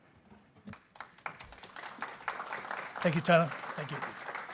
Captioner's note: people clapping